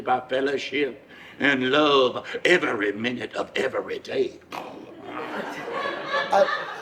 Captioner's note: audience laughs; snorting